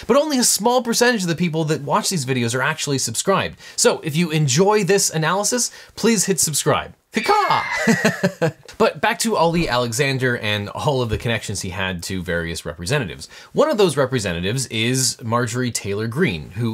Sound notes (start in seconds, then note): 7.2 imitates eagle; 7.2 laughs